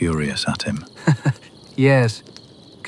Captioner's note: laughs